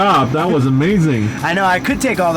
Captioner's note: laughing